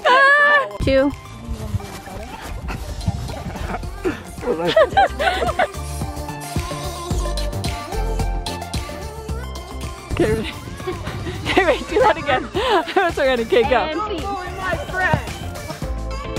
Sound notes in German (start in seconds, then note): 2.0 lachend; 4.7 aufgeregte Musik